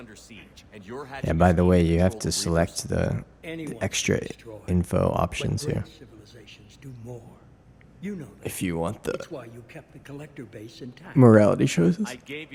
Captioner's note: yawns